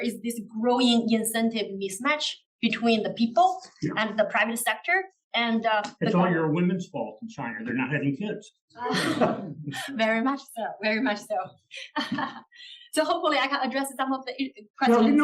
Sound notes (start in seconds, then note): 8.8 laugh; 12.0 laugh